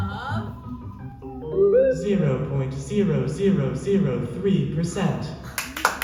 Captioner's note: computer noise; applause